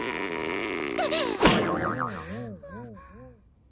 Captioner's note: groans, gasps